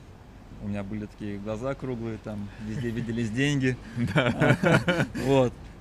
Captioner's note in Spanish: ambos se ríen